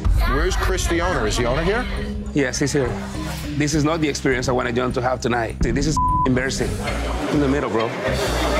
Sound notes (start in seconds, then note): 5.9 beep